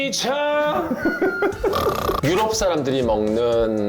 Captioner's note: dying laughing